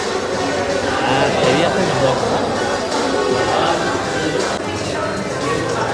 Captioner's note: laughing in panic